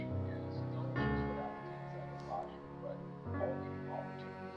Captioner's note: TV chatter continues; light music